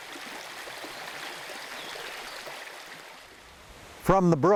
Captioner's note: water whooshing